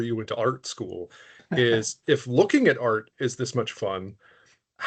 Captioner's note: laughing